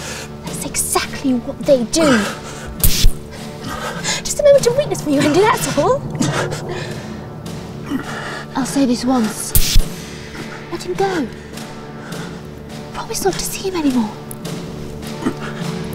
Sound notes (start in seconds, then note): 6.3 Ted groaning softly